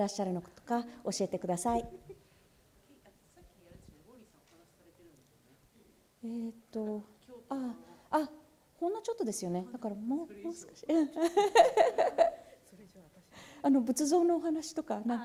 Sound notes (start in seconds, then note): 0.0 speaking japanese; 11.1 laughter; 12.4 speaking japanese